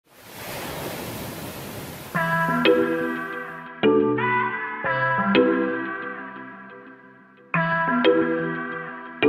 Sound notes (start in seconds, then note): 0.0 waves crashing; 2.1 upbeat island music; 2.2 synthesized humming